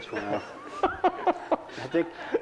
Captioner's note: laughter